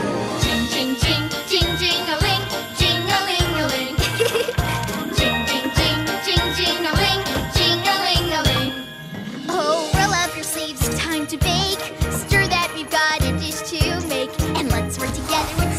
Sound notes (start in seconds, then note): 3.8 chuckles